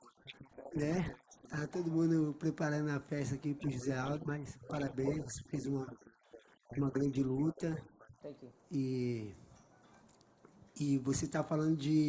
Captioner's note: speaking foreign language